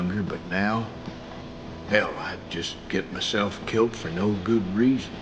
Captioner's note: none